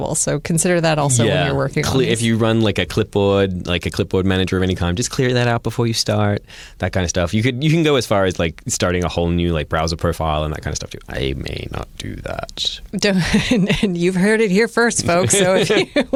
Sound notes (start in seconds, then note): 13.1 laughter